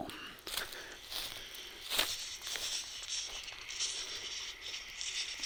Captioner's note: leaves crunching